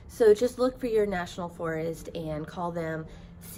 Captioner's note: none